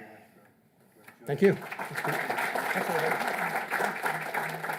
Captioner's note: applause